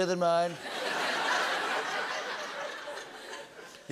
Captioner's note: laughter